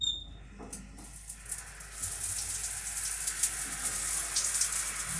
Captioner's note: water sprinkling